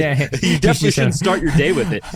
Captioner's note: laughing